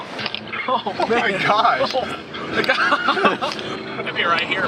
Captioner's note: chuckles